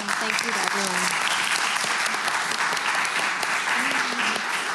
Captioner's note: applause